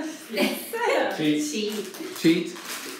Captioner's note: participants laugh